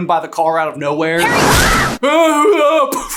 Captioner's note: screams